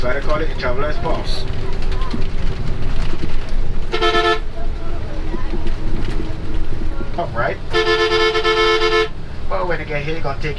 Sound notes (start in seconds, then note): 3.7 bus honks